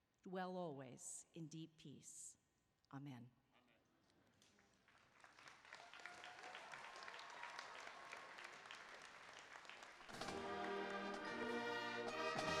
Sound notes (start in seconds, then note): 4.4 applause